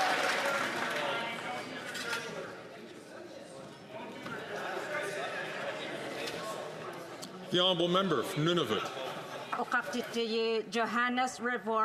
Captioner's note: some Applause